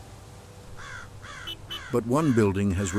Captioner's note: crows calling